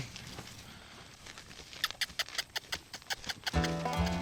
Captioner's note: hoofbeats; makes squeaky sound; comical music